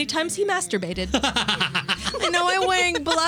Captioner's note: laughing